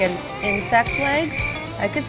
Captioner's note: crickets chirping